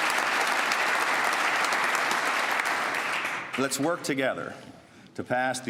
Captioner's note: applause